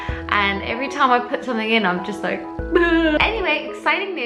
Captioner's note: fake crying